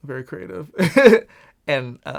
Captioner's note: laughs